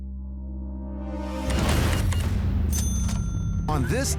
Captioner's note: register beeps, dings